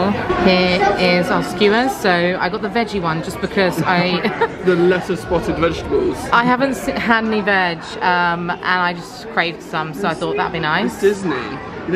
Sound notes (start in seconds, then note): 3.6 laughing